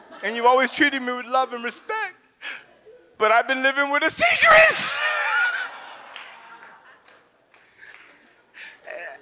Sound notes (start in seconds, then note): 0.0 audience laughs; 4.3 sobs; 4.7 audience laughs